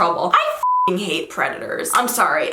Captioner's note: beep